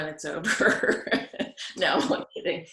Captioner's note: laughing